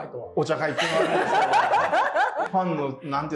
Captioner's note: laughing